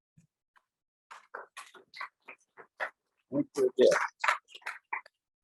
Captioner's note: audience applauding loudly